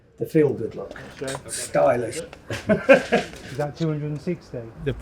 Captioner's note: laughs